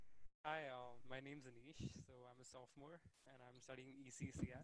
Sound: murmuring

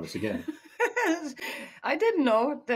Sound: laughing

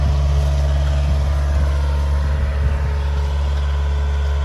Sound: machinery whirring

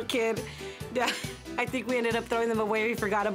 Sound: chuckles

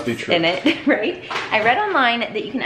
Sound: laughs

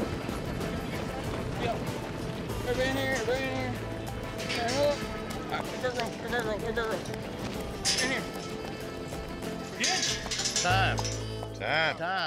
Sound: hoof beats, shouting; gate clanking

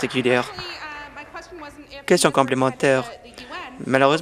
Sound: applause

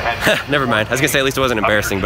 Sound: laughs

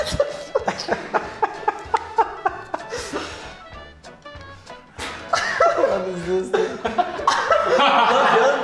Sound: laughing

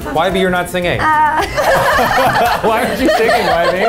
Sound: everyone laughs

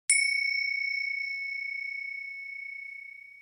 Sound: chime

